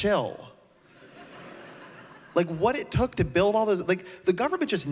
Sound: laughter

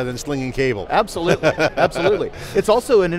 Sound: laughs

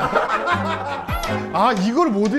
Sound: laughing

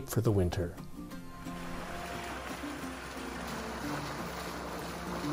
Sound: waves sloshing; cheerful guitar music

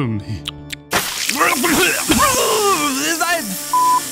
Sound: coughing

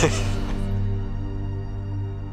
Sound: laughter

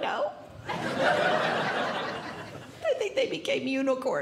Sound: audience Laughing

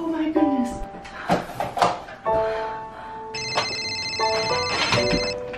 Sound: phone ringing

